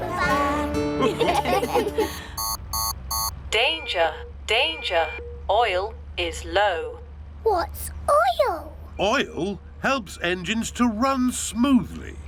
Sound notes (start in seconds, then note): 0.9 laughter; 2.3 beeping